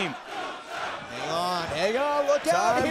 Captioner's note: crowd cheering